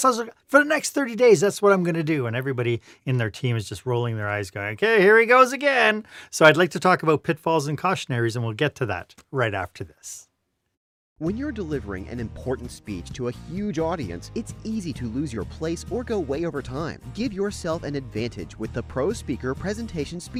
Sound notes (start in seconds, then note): 10.9 voiceover